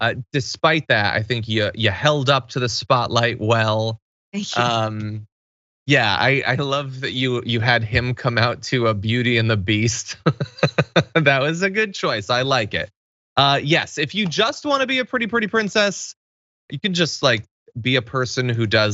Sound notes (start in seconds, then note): 9.9 laugh